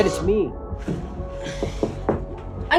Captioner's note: knocking